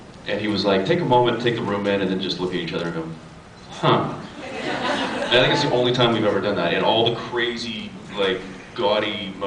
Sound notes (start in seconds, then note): 4.5 scattered laughs